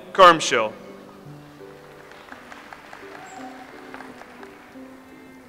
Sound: audience applauds

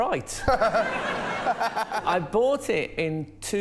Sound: laughter

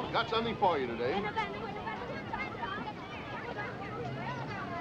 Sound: people chattering

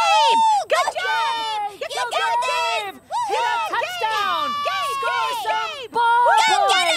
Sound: cheering

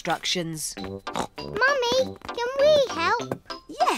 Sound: snorts

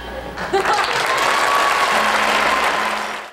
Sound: applause

